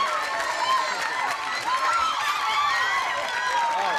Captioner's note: cheering and applause